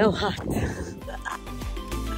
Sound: chuckles

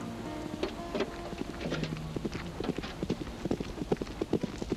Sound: hooves clopping

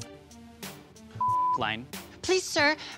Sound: beep

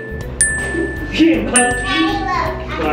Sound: bell dings

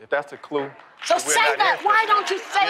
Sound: applause

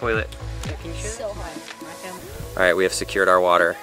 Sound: chattering

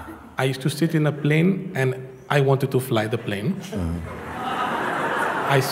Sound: laughter

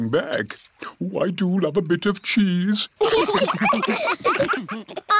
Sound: laughter

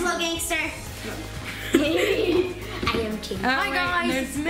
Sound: family chattering

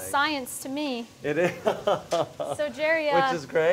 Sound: laughs

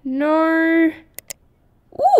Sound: click!

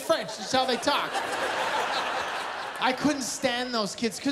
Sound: laughter

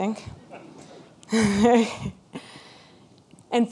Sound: laughs with audience

